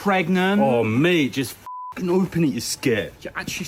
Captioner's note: beeps